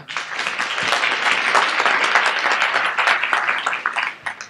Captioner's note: audience applauds